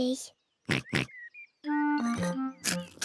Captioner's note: in normal voice; oinking